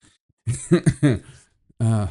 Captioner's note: laughing